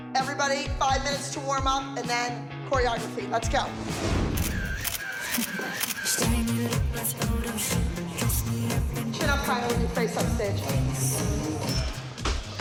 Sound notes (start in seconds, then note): 4.3 camera shutter clicking